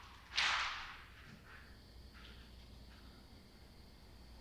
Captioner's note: door clicking